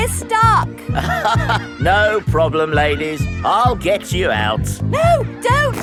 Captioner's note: chuckles